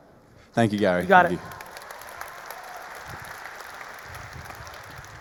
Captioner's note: audience applauding